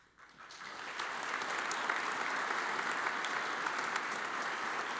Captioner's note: audience applauds